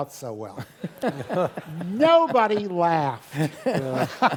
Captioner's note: laugh